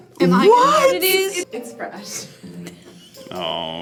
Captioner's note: laughs